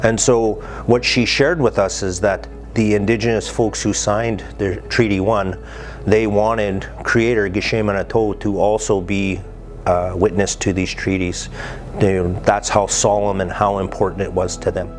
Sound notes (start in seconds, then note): 7.9 ojibwe language